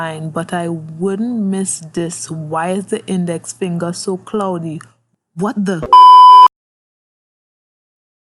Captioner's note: beep